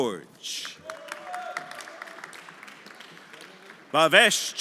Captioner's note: everyone applauding